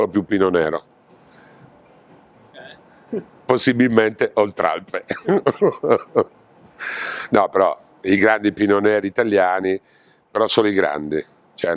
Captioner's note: laughs